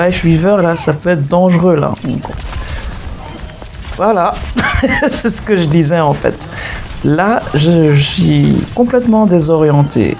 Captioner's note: laughs